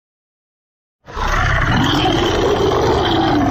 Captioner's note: monster Roar